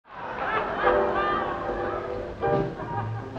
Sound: audience laughing; jazzy piano playing

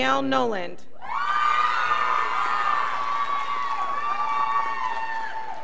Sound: scholars applauding

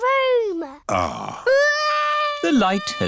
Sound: crying

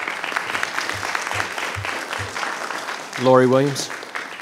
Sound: audience applauds

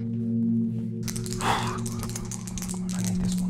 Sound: dice rattling

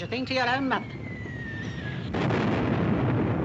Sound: bomb whistles

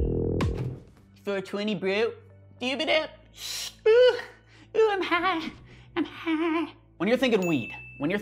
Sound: funny sounds

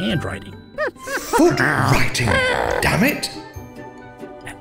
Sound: ape noises

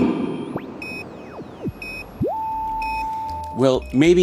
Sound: transmission beeping

